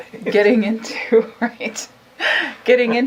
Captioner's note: laughs